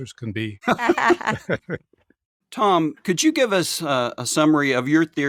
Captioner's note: laughing